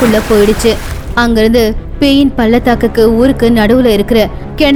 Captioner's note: waterfall